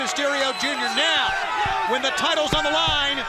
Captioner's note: crowd chatter